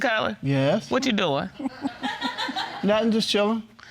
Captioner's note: audience laughing